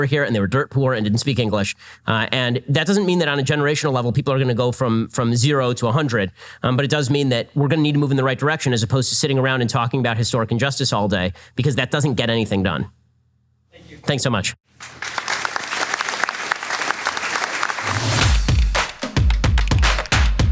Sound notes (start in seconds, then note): 14.7 audience applause